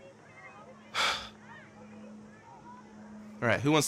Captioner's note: sighs